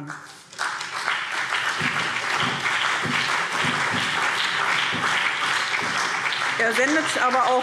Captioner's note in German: Beifall BÜNDNIS 90/DIE GRÜNEN, CDU, Freie Demokraten und vereinzelt SPD